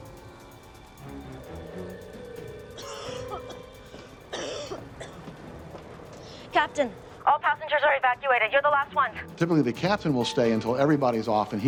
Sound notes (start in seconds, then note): 0.0 dramatic music; 4.3 hostess coughing